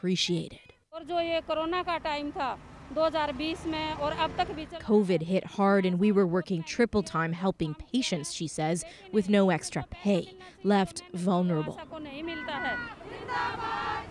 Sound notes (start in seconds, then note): 3.9 speaking Foreign Language; 13.7 chanting